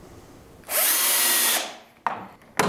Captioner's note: loud drill whirring